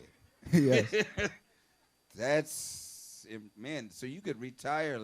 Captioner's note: laughs